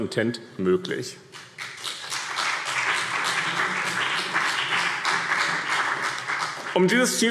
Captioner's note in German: Beifall BÜNDNIS 90/DIE GRÜNEN und CDU